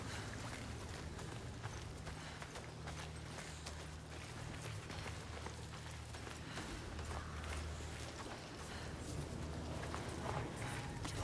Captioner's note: footsteps